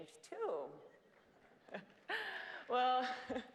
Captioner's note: laugh